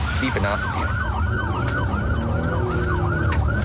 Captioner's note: engine guns